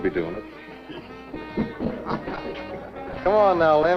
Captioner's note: men laughing